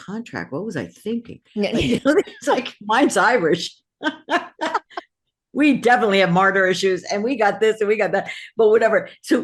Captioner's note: laugh